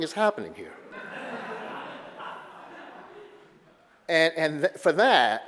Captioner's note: audience laughter